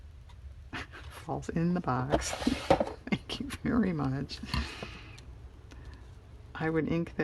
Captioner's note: laughs